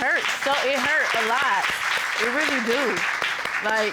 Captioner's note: audience applauding